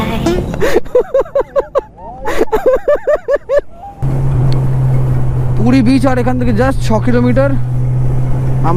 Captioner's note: loud laughter